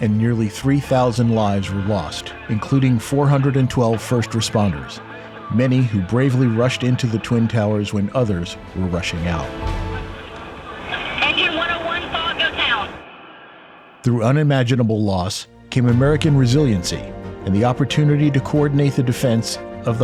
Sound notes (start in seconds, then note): 10.1 radio Announcer